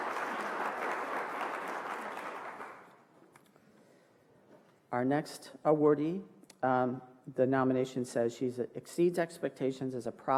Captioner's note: applause